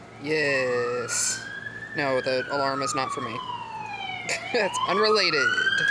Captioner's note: fire truck going